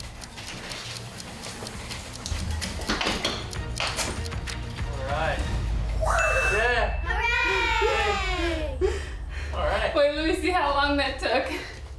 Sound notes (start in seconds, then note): 7.1 hooray